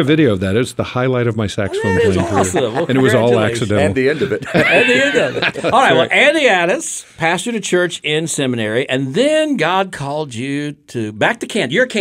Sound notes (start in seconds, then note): 5.4 group laughs